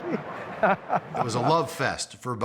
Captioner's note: chuckles